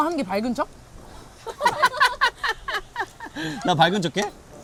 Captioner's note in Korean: 빵 터짐